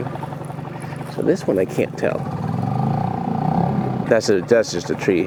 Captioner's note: boat motor hums